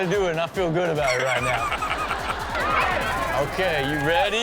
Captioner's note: all laughing